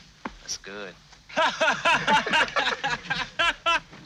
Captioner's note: all laughing